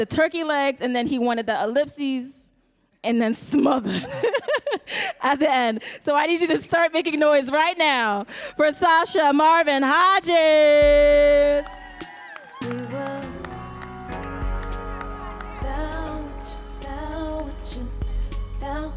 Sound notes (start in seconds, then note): 4.8 laughs; 11.3 audience cheering and applauding; 12.4 mellow music